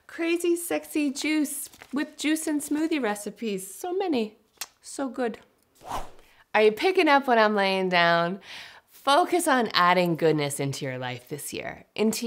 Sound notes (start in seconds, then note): 4.6 kiss